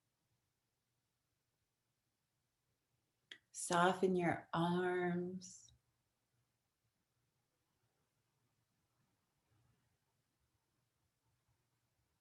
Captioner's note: silence